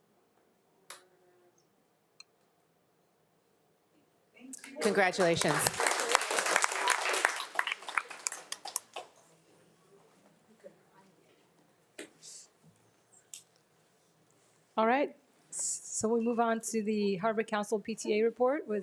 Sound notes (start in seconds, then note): 6.1 group applauds; 9.9 group chattering faintly